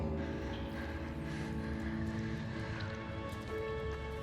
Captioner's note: Nethiah panting